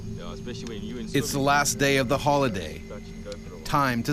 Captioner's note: voiceover